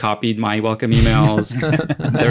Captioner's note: laugh